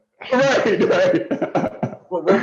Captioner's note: laughter